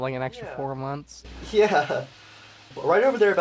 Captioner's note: laughing